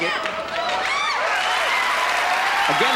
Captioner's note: cheering